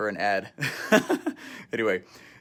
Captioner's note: laughs